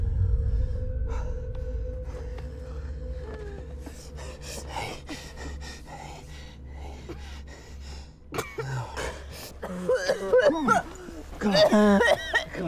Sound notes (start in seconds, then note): 8.3 woman coughing